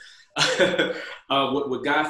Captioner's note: laughs